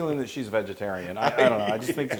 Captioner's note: laugh